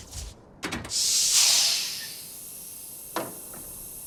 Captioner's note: damaged electrical zapping; metal latch open, decompression hiss